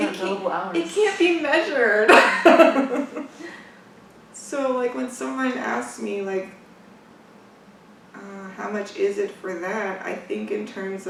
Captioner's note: laughs